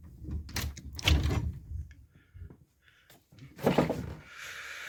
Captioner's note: door unlatching